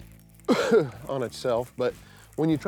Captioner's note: coughs